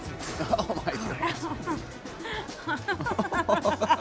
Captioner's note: laughing